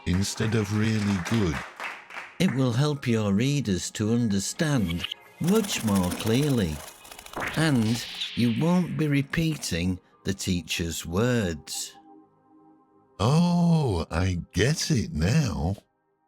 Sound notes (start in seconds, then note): 0.0 hands clapping; 5.4 birds wings fluttering